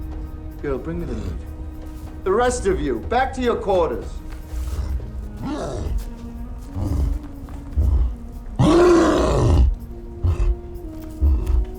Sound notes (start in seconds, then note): 4.3 cyclops growling; 8.5 cyclops roars